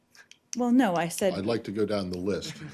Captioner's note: laughter